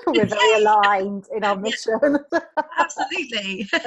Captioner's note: laughs; both laughing; laughs